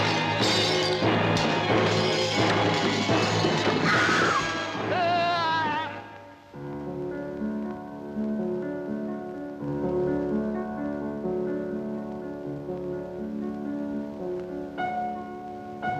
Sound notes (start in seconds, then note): 0.0 glass shattering; 5.5 Jimmy groans; 5.5 woman screams; 9.1 gentle piano music